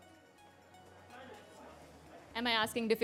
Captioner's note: chatter